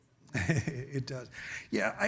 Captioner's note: chuckles